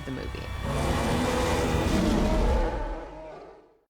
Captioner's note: roars